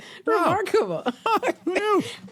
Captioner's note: laughter